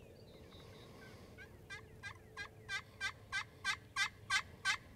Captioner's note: turkey calling